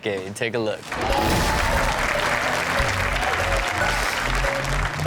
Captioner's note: crowd cheers